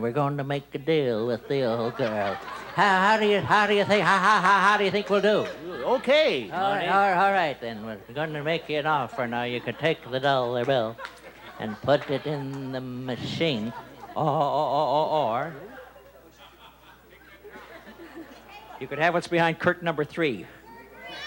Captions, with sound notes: We're gonna make a deal with the old girl. How do you (stutters) How do you think we'll do? -Okay, Monty. -All right, then, we're gonna make you an offer now. You can take the dollar bill and put it in the machine, or (stutters)... (normal voice) you can have what's behind curtain number three.